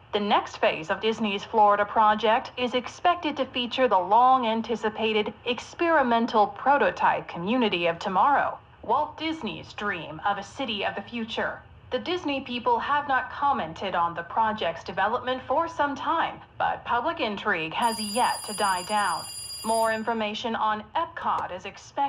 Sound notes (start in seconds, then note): 17.8 phone ringing